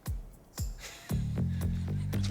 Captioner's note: laughs